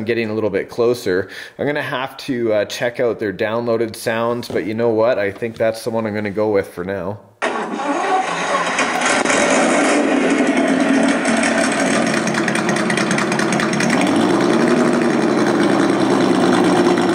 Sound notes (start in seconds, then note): 7.4 engine starting; 9.8 engine rumbling; 14.3 engine revving